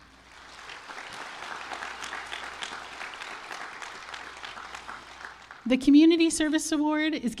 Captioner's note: applause